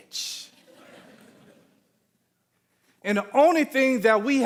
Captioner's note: audience laughing